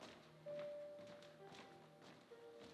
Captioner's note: none